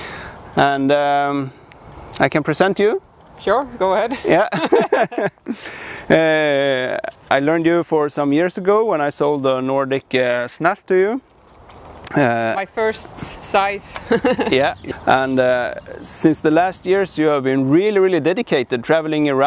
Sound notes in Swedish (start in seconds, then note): 4.1 båda skrattar